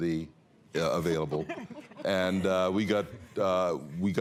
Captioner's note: chuckling